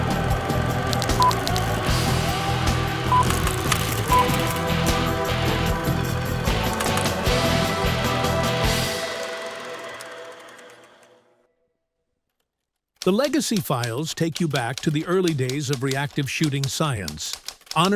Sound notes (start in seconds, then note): 0.6 upbeat energetic music continues; 3.0 reel beeping and clattering